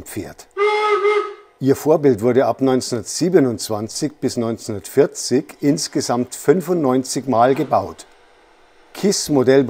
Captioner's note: whistle